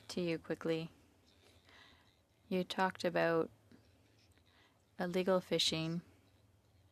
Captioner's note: speaking French